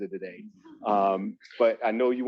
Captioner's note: panel chuckles